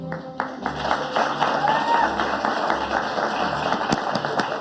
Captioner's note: audience applauding